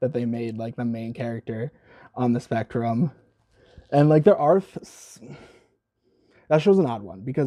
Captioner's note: sigh